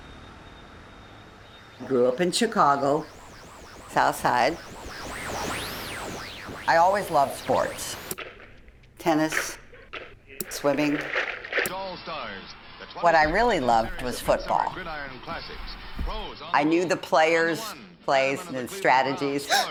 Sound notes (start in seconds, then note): 4.9 Static; 10.2 TV sports broadcast